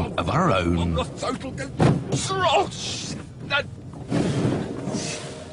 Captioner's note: exhales